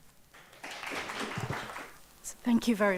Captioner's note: audience applauds